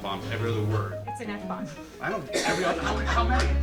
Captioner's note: laughing; audience laughing